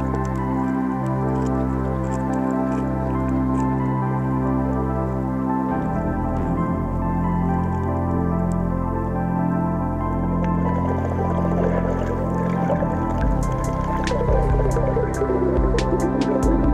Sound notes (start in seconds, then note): 0.3 serene music; 9.2 water rippling; 13.5 lighthearted music